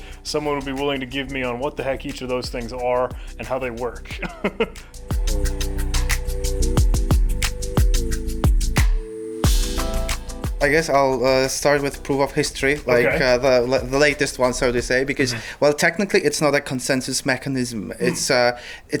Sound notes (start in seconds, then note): 4.1 chuckles; 4.3 upbeat electronic music